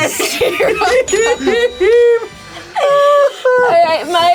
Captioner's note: all laughing